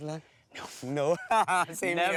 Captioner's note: laughs